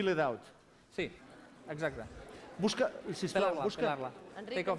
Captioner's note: non-english speech